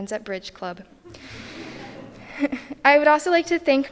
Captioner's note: all chuckling